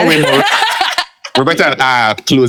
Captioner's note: laughing